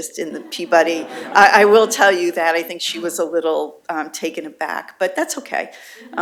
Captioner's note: laughter